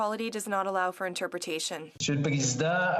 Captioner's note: speaking French